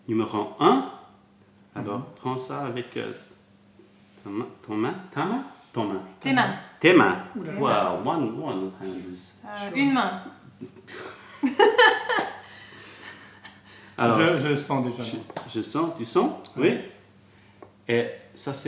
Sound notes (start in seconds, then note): 0.0 french; 10.6 laughter; 10.6 french